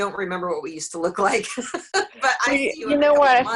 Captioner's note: laughs